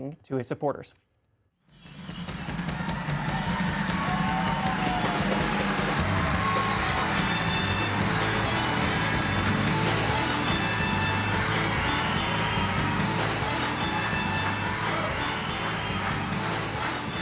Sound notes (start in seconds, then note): 13.7 applause